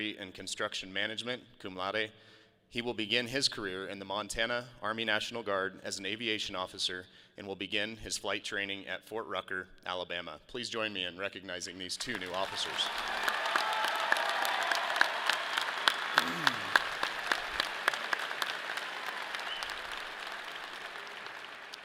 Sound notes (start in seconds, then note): 13.6 audience applauding; 15.1 people cheer